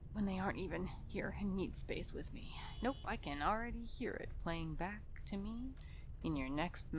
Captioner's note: distant car honking